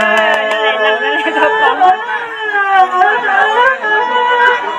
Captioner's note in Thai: ปรบมือ